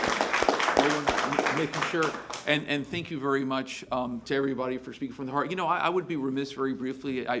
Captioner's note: applause